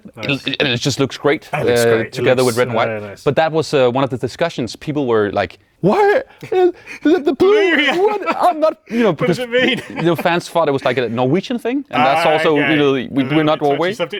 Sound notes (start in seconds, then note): 6.4 laughs